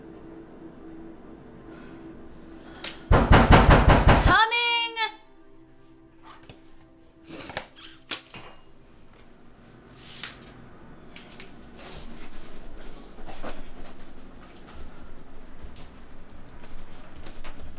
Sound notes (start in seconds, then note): 3.1 bamging at door